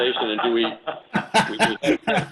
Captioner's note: laughter